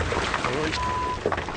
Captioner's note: rocks crashing